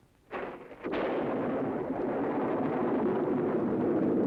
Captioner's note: thunder rumbling